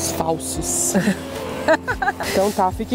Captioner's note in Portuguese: risos